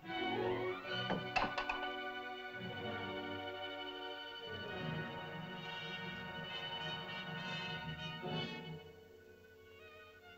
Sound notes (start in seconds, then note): 0.5 soft tense music; 1.1 bowl clatters; 3.6 tense music; 9.8 soft tense music